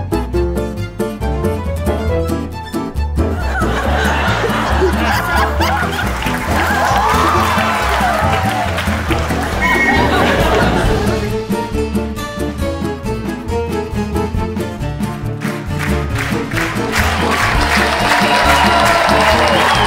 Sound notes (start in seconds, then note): 5.9 clapping, laughing; 15.1 clapping, cheering